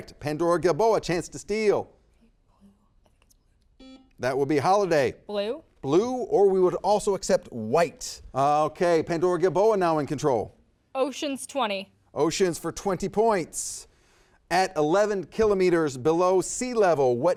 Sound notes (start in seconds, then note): 3.8 buzzer beeps